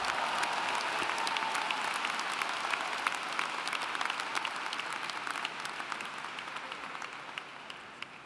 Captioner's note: applauding